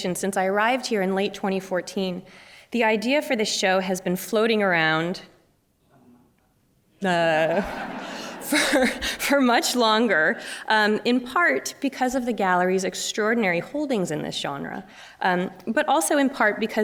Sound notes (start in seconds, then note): 7.4 laughter